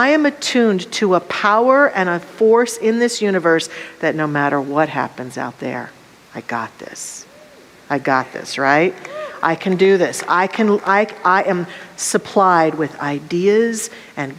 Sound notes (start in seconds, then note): 8.9 audience cheers and applause